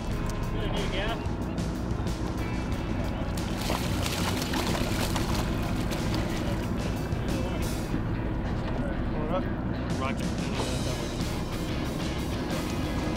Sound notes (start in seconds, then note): 3.3 fish splashing water